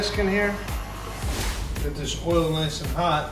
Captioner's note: air whooshes